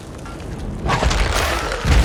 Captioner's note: rumbling; thud